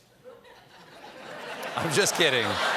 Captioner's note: laughter